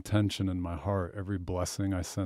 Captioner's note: none